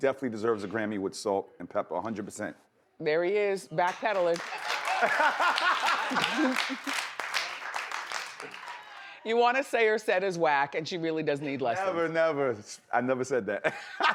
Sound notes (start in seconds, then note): 4.9 man laughs; 13.9 man and audience laugh